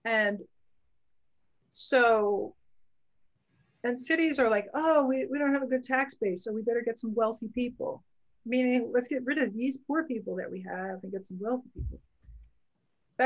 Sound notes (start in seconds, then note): none